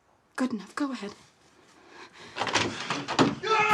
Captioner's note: gasps; door rattles; Isaac yelling